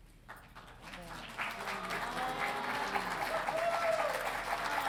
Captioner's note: audience applauding